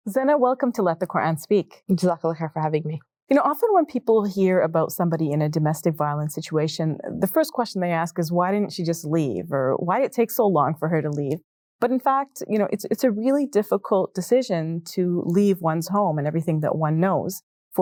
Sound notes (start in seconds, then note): 2.2 speaks in foreign language